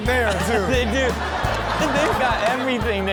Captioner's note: crowd laughing